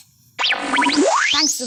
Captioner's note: electronic whizzing